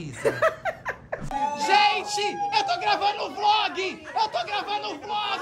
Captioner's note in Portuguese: gritando